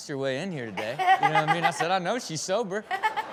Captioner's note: Chanel laughs